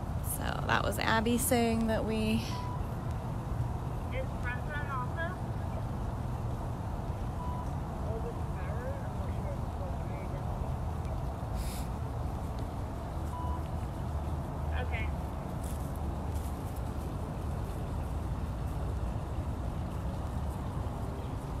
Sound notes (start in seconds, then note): 4.6 radio Chatter